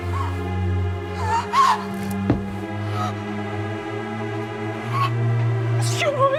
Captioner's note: Anya Gasps